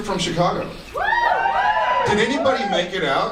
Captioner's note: scattered cheers